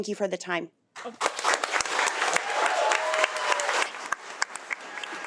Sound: audience applauding

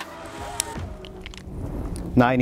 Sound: gun firing; signal chiming; gun clicking

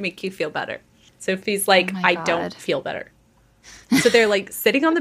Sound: laughing

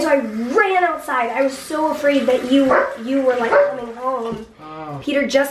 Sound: Ollie barks

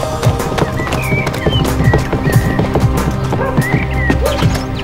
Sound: birds chirping; gentle tribal music

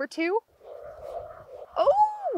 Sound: more squeaking!

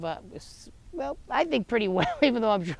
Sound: chuckles

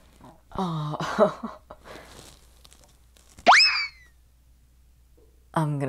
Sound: laughing; cartoon throw away sound effect

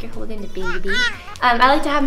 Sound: baby sounds

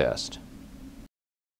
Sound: pause

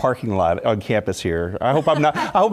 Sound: laugh

